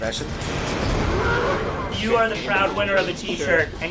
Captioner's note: roar